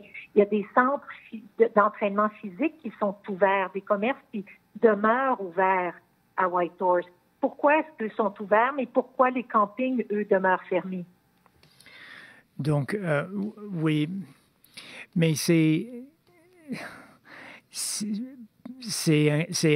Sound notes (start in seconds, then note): 4.6 speaking French